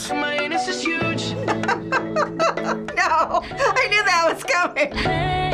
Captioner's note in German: lacht